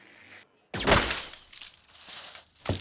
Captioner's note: silenced gunshot